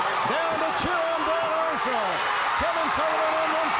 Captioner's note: crowd cheering